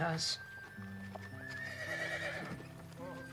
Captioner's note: horse Neighs